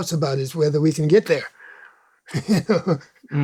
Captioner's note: laughs